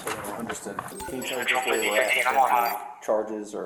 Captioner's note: radio chatter